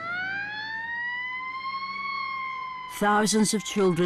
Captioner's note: siren blaring